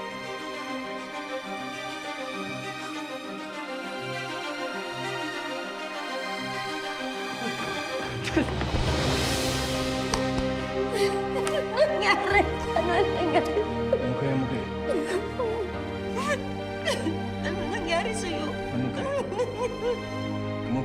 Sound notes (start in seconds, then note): 0.2 stirring music playing; 11.1 mercedes crying; 16.0 sobbing